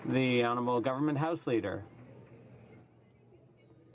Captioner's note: some Applause